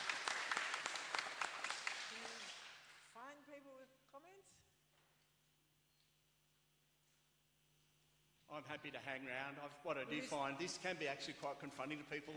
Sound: applause

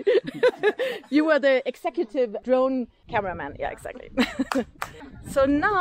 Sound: laughing; laughing

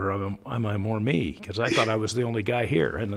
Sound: chuckles

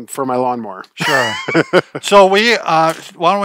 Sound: laughs

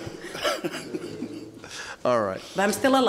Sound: laughing

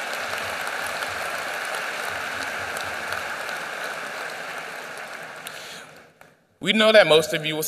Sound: applause

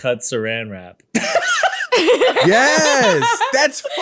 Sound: laughing

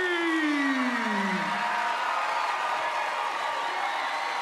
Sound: cheering, applauding

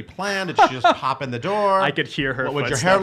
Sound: laughing

